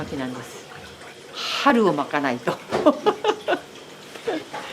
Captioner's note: laughs